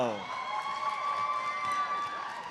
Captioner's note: audience cheers and applauds; audience member whistles